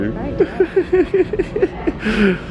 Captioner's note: laughs